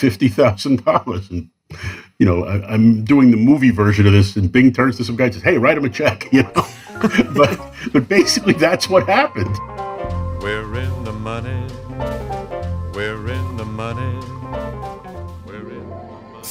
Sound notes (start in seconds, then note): 6.4 laughs; 11.9 singing